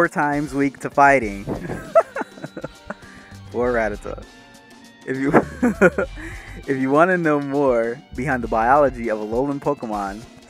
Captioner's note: laugh